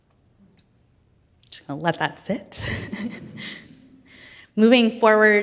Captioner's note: chuckles